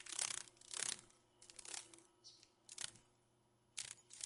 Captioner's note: sounds of a dragon fly